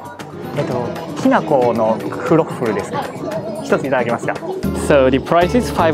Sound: speaks in japanese

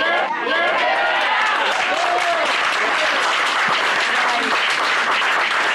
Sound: cheering, applause

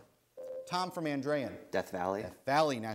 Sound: ding

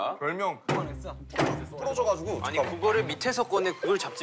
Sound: thump

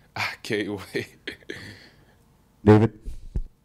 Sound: Ernest chuckles

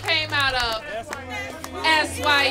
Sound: applause

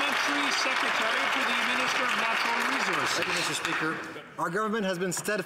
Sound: some Applause

